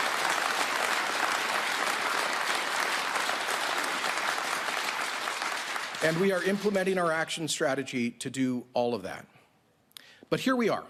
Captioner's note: applause